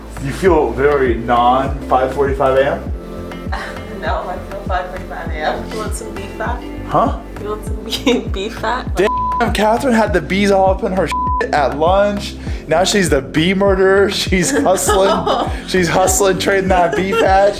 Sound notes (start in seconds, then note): 9.0 beep; 11.1 beep; 14.4 laughs